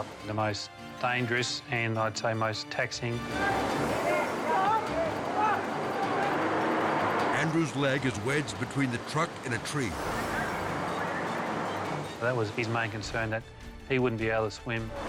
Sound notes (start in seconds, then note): 3.2 rescuers yelling; 4.5 water rushing